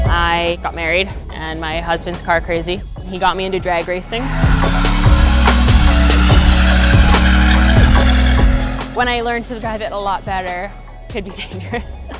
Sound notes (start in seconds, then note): 4.0 tires squealing